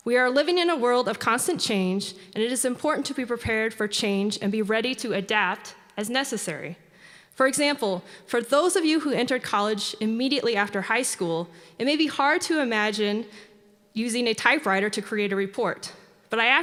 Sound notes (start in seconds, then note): none